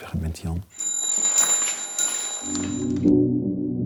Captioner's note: alarm rings